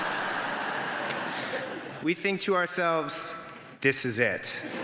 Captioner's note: laughter